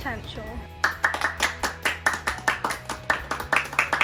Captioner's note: all clapping